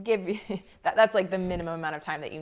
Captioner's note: laughs